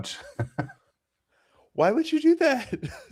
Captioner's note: laughs